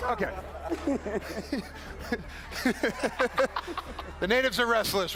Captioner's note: laughter